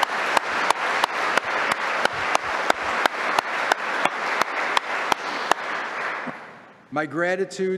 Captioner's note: applause